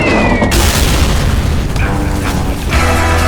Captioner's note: massive explosion; climactic Western music